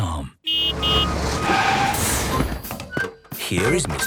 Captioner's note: honking, engine revving